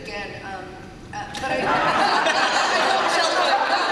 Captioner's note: laughter